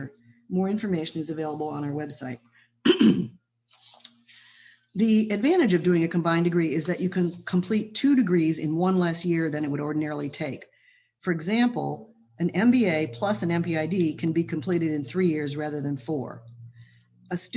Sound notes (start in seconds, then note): 2.8 clears throat